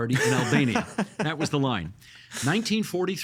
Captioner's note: laughing